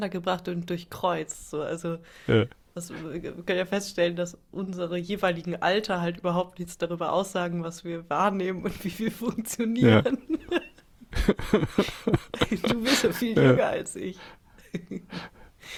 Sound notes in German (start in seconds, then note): 11.0 gelächter